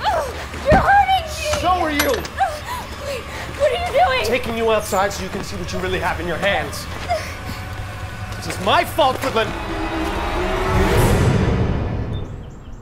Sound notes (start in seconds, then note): 2.2 gasps; 9.9 dramatic music